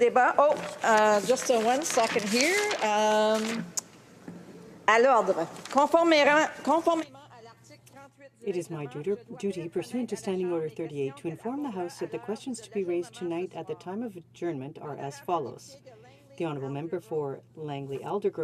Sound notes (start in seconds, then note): 8.5 speaking in French